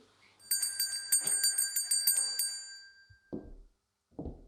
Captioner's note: bell rings